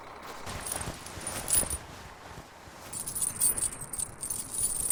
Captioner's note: chains rattling